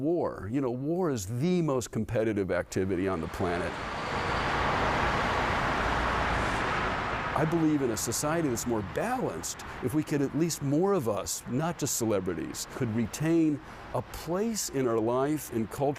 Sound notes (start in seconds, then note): 6.8 traffic whooshing